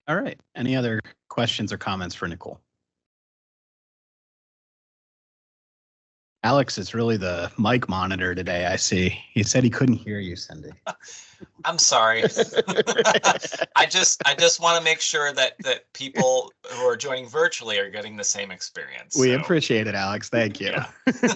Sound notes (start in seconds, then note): 11.4 council laughing